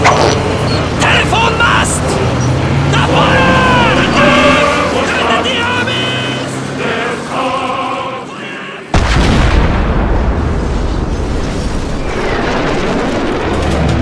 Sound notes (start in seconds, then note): 4.1 speaking German